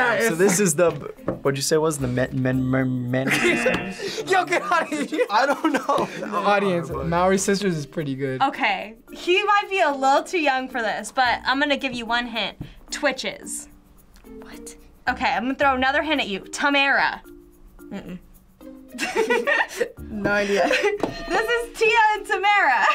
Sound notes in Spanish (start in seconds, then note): 3.2 risas; 18.9 ambos se ríen; 21.0 suena la campana